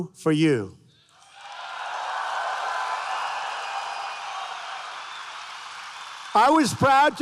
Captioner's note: applause